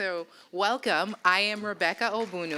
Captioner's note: applause